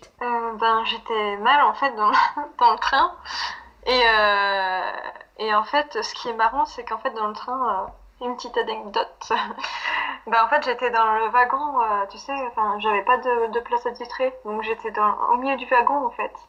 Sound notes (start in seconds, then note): 9.5 laughs